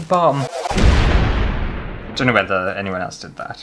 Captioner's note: explosion!!